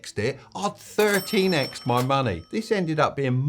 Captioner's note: cash register chimes